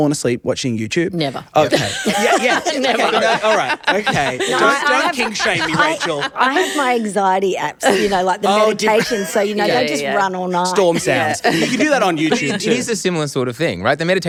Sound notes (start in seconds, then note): 1.3 group laughs